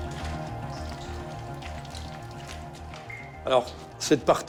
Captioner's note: water dripping